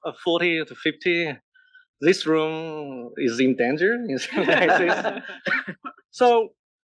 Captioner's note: laugh